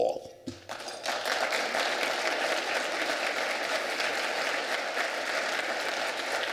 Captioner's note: applause